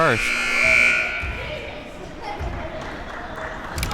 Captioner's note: buzzer rings